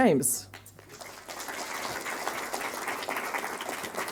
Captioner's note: audience applauding